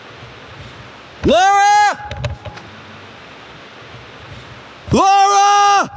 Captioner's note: screaming